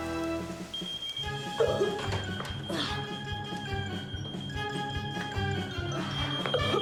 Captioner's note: Jimmy coughing; alarm beeping